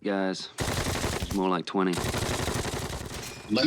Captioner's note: gunshots